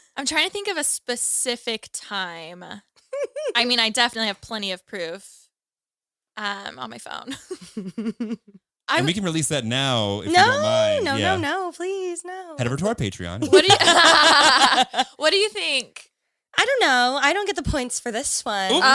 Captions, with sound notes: - I'm trying to think of a specific time. I definitely have plenty of proof on my phone. - We can release that now if you don't mind. - No, no, no, no, please no. - Head over to our Patreon. (all laughing) - What do you think? - I don't know, I don't get the points for this one.